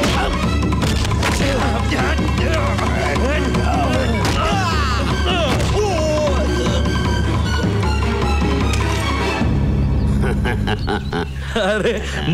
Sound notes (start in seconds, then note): 10.0 Laughs